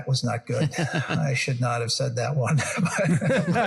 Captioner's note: laugh